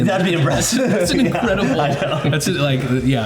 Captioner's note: laughs